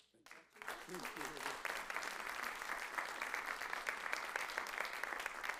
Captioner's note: audience applauds